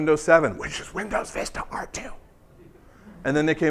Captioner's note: whispers